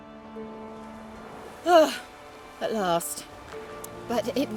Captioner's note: relieved sigh